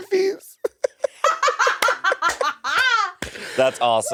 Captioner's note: laughing; clapping